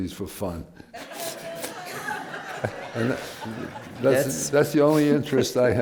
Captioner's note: laughter